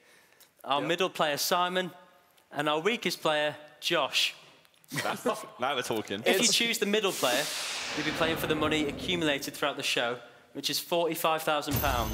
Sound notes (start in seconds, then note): 7.0 whooshing